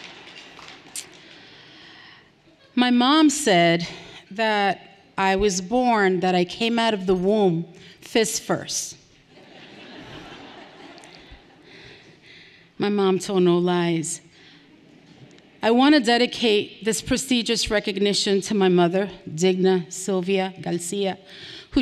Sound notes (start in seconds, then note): 9.4 everyone laughing lightly